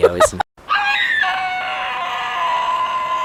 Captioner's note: screaming